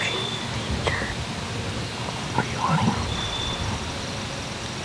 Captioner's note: whispering